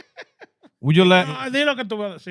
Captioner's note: laughing